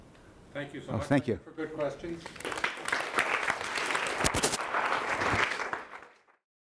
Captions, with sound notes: - [Voiceover] Thank you so much. - [Voiceover] Thank you. - [Voiceover] For good questions. (audience applause)